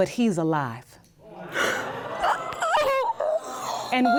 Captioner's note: audience gasps; gasps